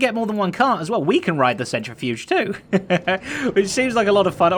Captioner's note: chuckles